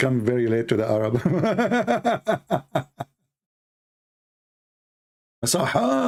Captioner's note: Ketawa